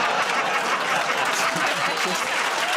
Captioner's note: laughter and applause